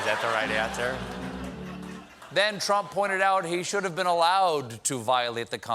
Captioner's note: laughter